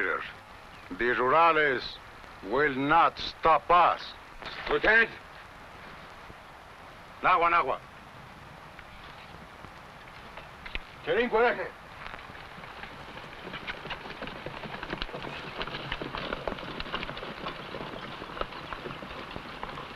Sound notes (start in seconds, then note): 7.4 speaking foreign language; 16.0 horse hooves pattering